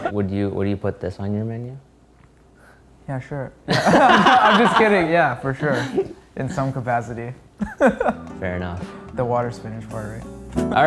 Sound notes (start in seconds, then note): 3.7 men laughing